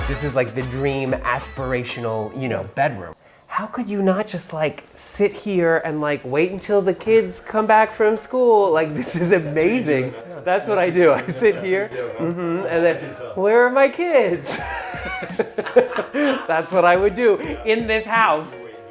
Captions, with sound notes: - This is like the dream aspirational, you know, bedroom. How could you not just like, sit here and like, wait until the kids come back from school, like, this is amazing. - I can see you doing that. - That's what I do. I sit here, mm-hmm. Where are my kids? (laughing) That's what I would do in this house.